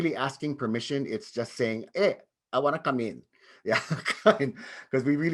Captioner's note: chuckles